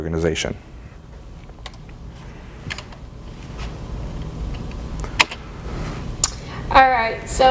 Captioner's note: no dialogue/clicking noise